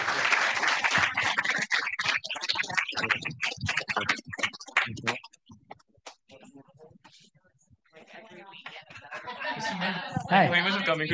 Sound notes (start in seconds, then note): 0.0 audience applauding; 3.8 group chattering indistinctly